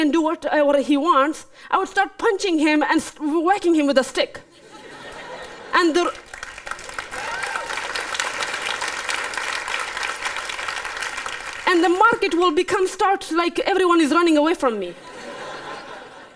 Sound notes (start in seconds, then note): 6.0 applause